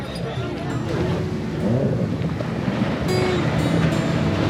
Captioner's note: ocean Sounds